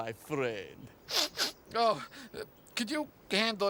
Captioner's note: Armstrong sniffling